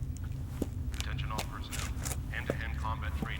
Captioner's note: man On PA